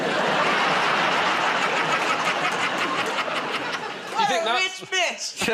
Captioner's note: laughter